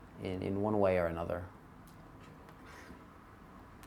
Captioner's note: none